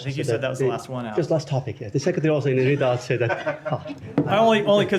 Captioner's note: laughter